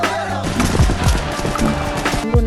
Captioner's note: gunshots